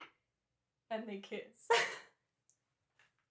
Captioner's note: laughter